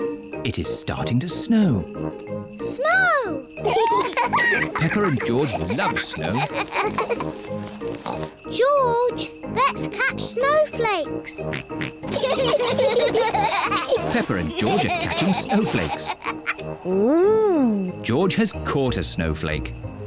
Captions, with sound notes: It is starting to snow. -Snow! -(BOTH GIGGLE) Peppa and George love snow. (SNORTS) George, let's catch snowflakes. -(SNORTS) -(BOTH GIGGLE) Peppa and George are catching snowflakes. -Ooh! -George has caught a snowflake.